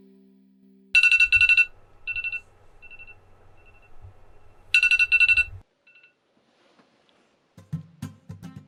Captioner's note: phone alarm